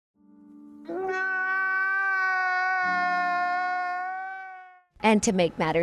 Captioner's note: sobbing